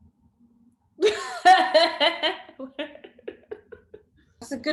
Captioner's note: laughs